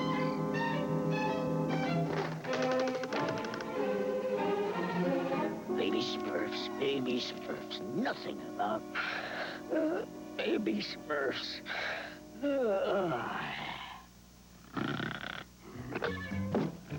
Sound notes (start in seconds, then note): 0.1 rattling; 9.3 yawns; 14.7 snoring